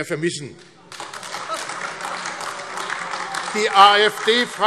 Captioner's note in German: Beifall AfD - Lachen und Zurufe